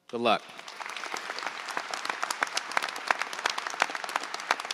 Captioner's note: audience applauds